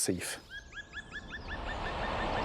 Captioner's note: animal call